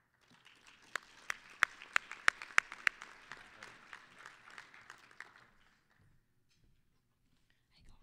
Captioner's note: applause